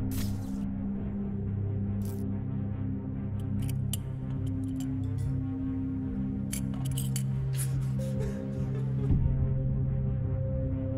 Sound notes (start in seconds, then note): 0.0 camera zaps; 8.3 Sean cries